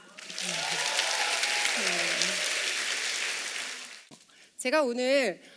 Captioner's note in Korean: 박수